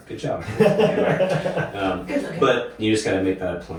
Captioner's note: laughing